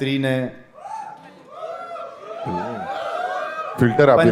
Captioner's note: crowd applauding